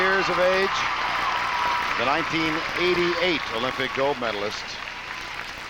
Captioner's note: applause